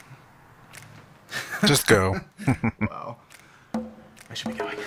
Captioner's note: chuckling